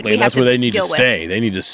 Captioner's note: scoffs